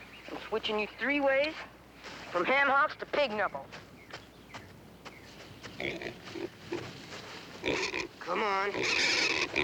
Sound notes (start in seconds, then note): 5.4 grunting; 8.3 squealing wildly